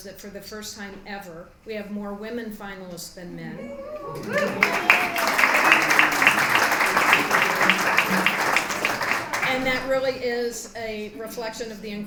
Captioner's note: applause